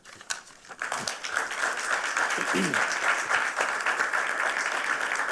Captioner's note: applause